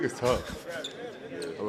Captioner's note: laughing